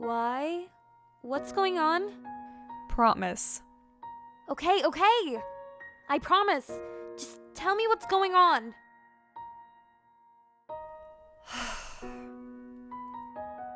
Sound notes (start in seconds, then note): 11.4 another sigh